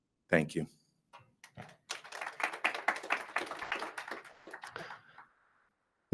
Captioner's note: attendees applauding